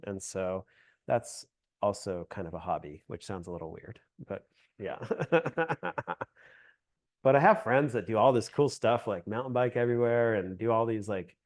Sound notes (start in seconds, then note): 5.0 laughs